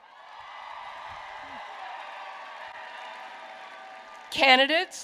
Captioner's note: applause